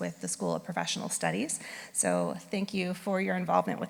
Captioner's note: none